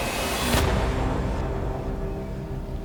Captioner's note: gunshot